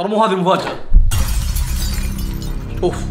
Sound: breaking noise

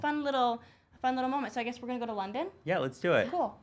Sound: none

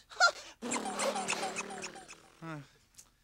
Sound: laughs; sighs; toy squeaking

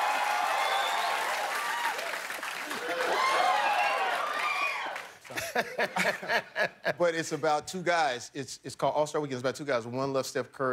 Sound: cheers and applause

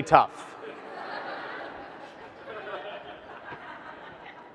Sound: audience laughs

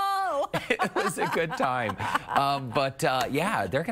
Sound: laughter

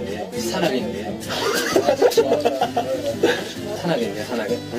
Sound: laughing out loud

